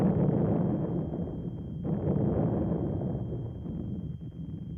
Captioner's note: continuous explosions